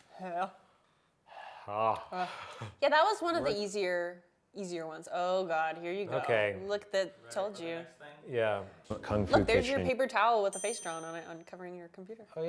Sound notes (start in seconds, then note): 10.5 bell dings